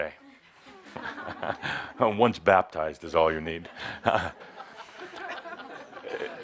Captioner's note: laughter